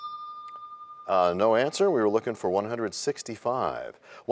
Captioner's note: bell rings, time expires